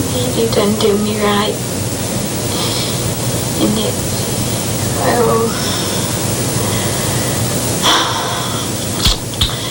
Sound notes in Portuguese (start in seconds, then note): 5.0 suspira